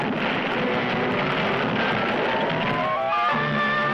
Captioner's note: stone crashing; dramatic music